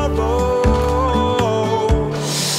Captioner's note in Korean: 킁킁